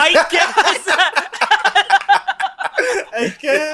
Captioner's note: laughs